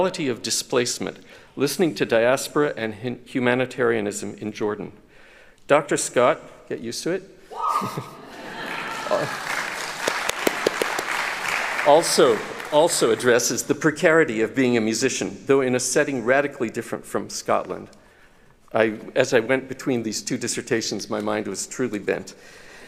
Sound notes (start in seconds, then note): 7.8 laughter; 8.2 cheering; 8.5 applauding